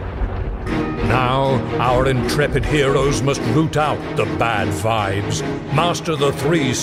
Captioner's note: lightning strikes, music picks up tempo